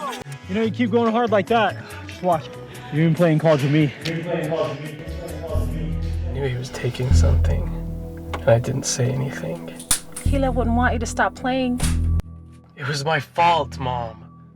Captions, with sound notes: You know, if you keep going hard like that just watch, you’re going to be playing in college with me. (echo) you’re going to be playing in college with me. I knew he was taking something but I didn’t say anything. He wouldn’t want you to stop playing. It was my fault Mom!